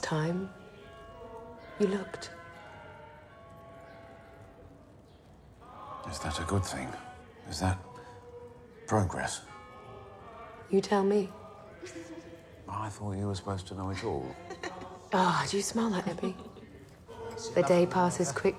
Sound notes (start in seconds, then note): 8.9 church bells ringing